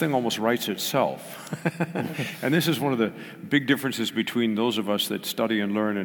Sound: laugh

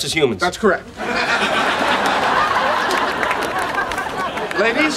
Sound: audience laughing

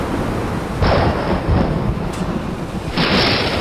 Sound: thunder

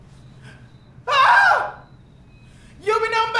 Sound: cries

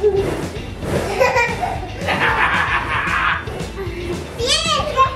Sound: family giggling

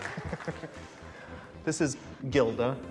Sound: laughs

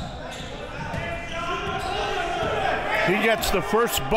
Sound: crowd cheering

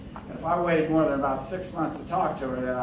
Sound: none

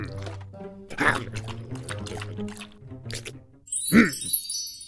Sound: slurping; magical ringing

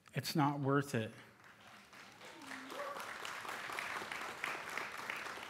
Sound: applause

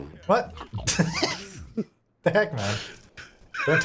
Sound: laughing

